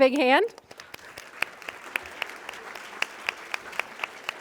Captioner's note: applause